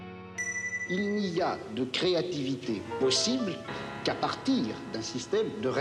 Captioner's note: speaking in foreign language